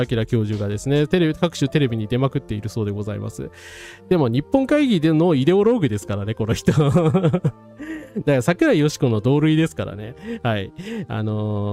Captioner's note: laughs